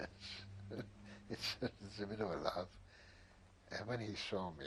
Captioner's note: laughs